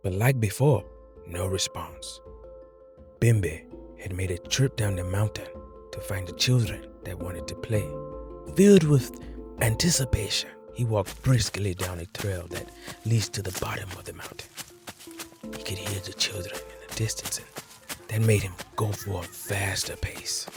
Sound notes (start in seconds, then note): 13.0 footsteps; 17.2 children playing